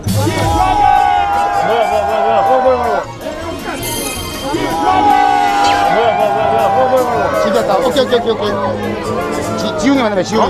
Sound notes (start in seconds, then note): 0.3 G-Dragon's car arrives with loud cheers; 3.5 commotion